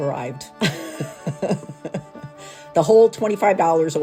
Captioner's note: chuckling